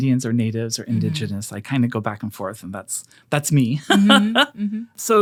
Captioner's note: laughs